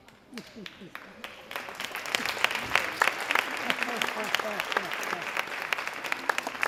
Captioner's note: audience applauding; person laughing